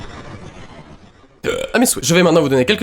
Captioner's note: burp